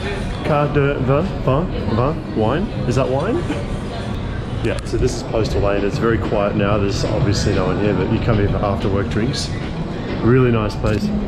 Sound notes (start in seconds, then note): 0.6 speaks foreign language